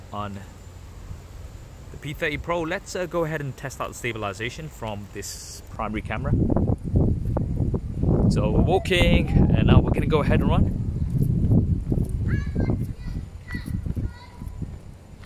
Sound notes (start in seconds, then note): 6.8 wind blowing; 12.2 child yelling